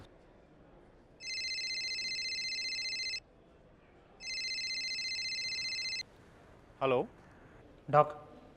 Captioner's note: Dr. Sharan's phone rings